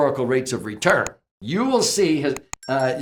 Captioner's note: sound of bell ringing